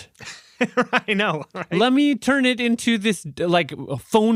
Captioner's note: laughs